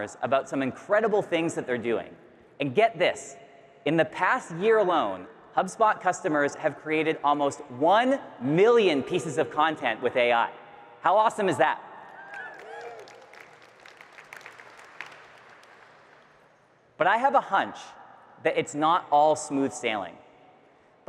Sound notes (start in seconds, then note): 12.1 audience cheering and clapping